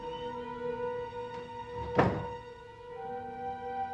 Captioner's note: door closes